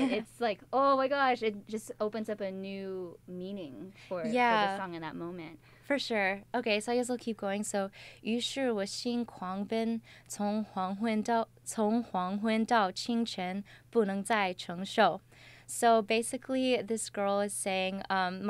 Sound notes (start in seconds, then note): 8.3 speaks in Chinese with pinyin